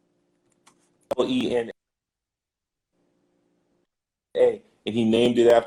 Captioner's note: glitch